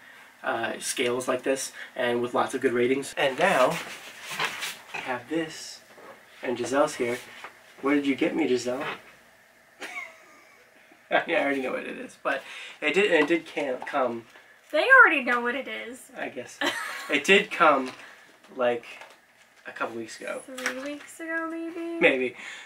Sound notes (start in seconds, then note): 9.8 laugh; 10.5 unamused silence